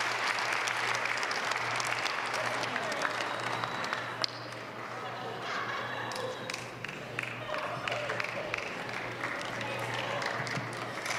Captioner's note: applause